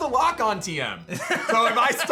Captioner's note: laughs